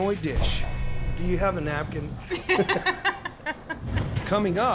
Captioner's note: laughter